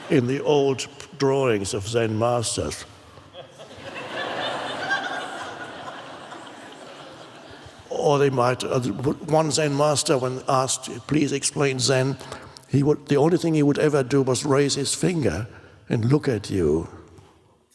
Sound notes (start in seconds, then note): 3.2 audience laughs